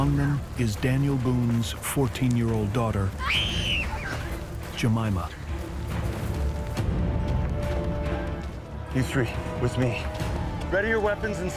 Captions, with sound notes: Among them is Daniel Boone's 14-year-old daughter.. [screaming] ...Jemima. [intense music] You three, with me.